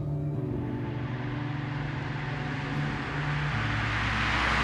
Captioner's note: car engine whirs